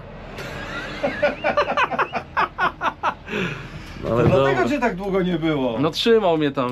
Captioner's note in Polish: śmiech